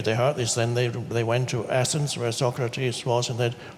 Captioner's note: none